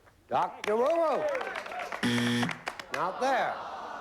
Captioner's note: buzzer